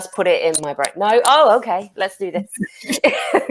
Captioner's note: laughs